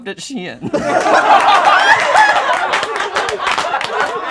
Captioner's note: laughing